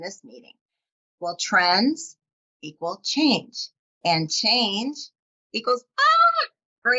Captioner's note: yells